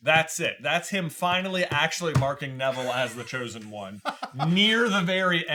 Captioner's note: laughing